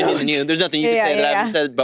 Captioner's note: participants chattering